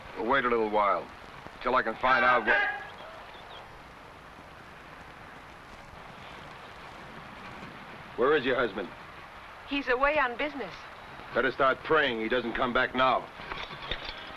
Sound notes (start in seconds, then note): 1.9 man shouts